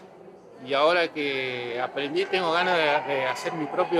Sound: none

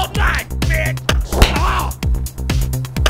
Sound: punch

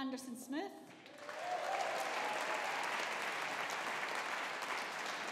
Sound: audience applauding

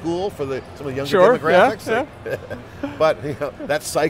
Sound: laughs

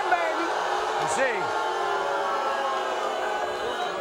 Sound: audience boos

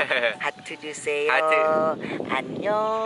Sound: Korean; Korean

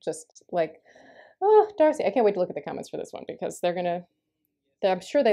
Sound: sighs

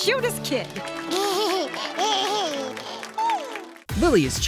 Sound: babbling

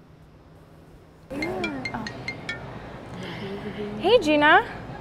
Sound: cell phone rings

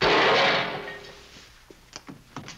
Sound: crash

